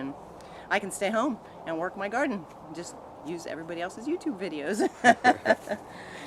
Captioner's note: laughing